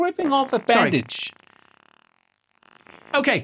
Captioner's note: farts from being nerveous